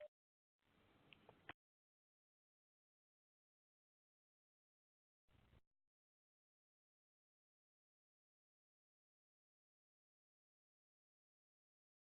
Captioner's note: 12 seconds of silence